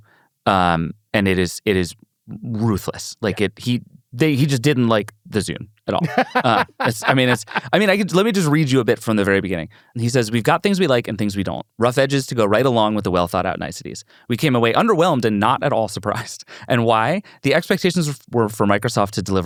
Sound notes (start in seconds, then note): 6.0 laughs